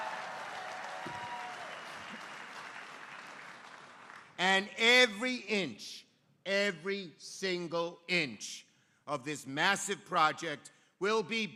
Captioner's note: applause